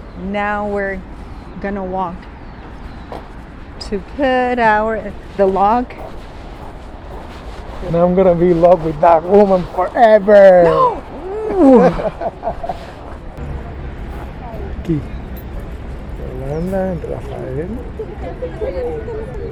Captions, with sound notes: Now we're going walk to put on our lock. And I'm going to be locked with that woman forever. No! [people talking in distance]